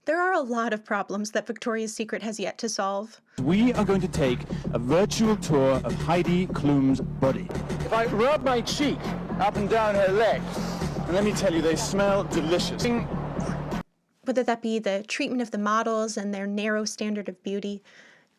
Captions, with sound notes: There are a lot of problems that Victoria's Secret has yet to solve. "We are going to take a virtual tour of Heidi Klum's Body. "If I rub my cheek up and down her leg..." *sniffs* And let me tell you they smell delicious. whether that be treatment of the models and narrow standard of beauty,